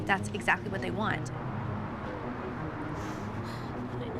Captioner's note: sobs